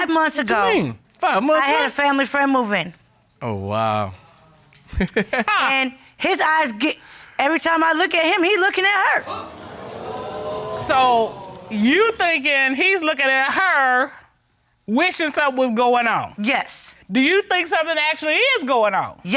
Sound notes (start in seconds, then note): 4.9 chuckling; 9.2 audience gasping